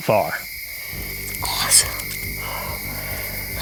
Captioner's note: whispering